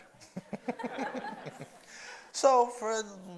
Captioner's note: audience laughs